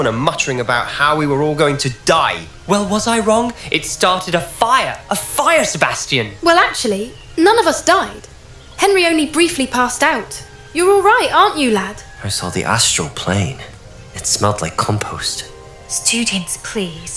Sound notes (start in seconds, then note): 12.2 deadpan